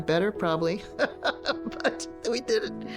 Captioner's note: laughs